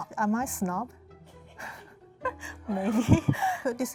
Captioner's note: laughing